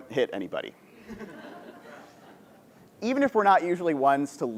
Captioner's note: laugh